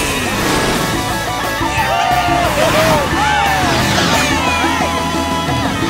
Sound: laughing, cheering

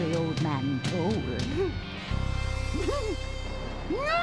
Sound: fighting back laughter; laughing uproariously

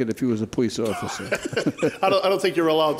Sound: laughing

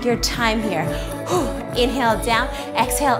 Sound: breathes

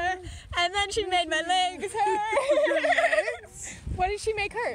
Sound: laughs

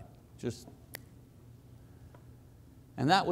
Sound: snapping

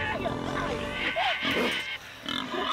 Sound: grunting

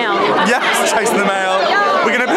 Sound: laughing

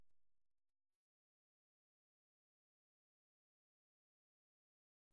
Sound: silence

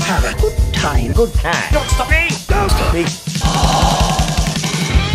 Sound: ooh!

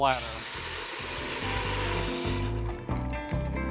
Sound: sizzling

